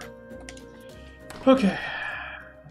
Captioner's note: sighs